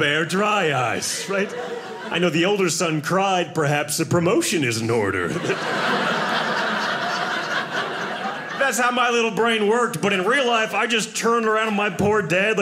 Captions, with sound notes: Dry eyes, right? I know the older son cried. Perhaps a promotion is in order. (audience laughing) That's how my little brain worked. But in real life, I just turned around on my poor dad like